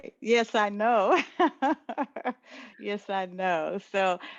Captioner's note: laugh